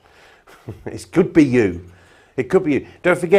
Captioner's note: chuckles